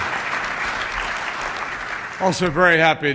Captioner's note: applause